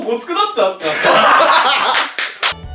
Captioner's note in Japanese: 笑い声